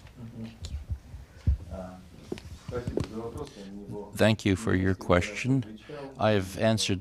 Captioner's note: through translator